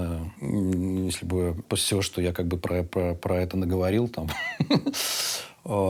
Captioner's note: laughs